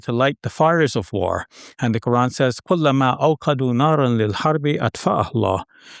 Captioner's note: speaking Arabic